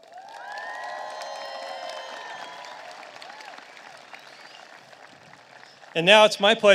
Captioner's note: applause